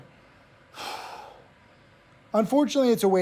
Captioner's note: Tim sighs